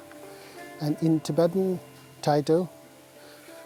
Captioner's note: speaks foreign language